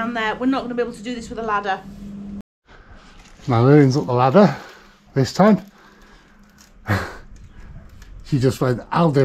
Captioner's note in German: lacht